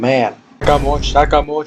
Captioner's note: boom